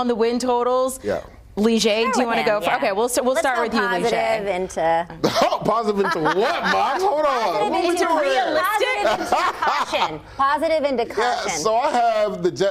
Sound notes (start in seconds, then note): 3.5 laughter